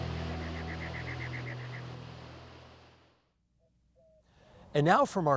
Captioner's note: birds chirping